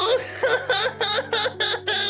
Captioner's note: crying